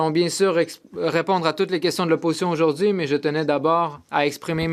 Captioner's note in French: voix de l'interprète